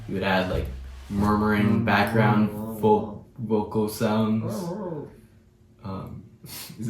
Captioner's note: murmuring